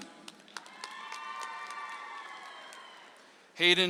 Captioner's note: audience applauds